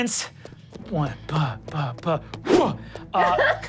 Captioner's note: blows air; laughs